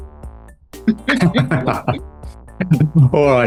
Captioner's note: laughs